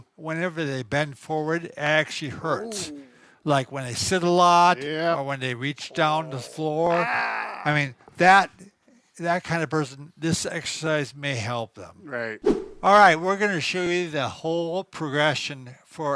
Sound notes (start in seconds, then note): 5.8 groans; 12.4 air whooshing